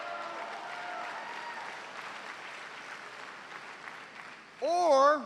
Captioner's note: cheers and applause